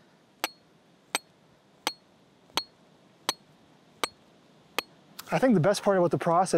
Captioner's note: metal clanging continues